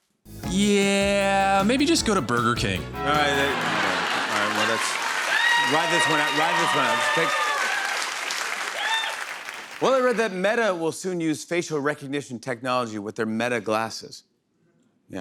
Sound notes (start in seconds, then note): 3.0 bell rings; 7.5 cheers and applause